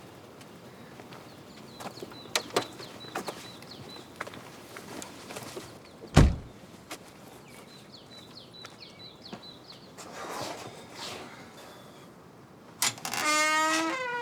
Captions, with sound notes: Mm-hmm. I guess I'll check the front door. [birds chirping]